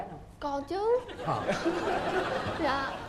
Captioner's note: laughing